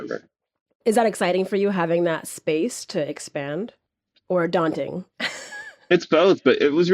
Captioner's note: laughs